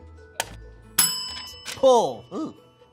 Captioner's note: bell ringing